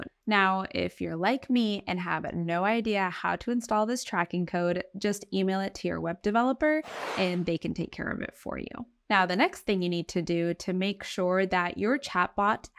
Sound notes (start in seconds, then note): 6.8 button skidding